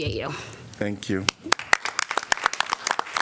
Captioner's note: applause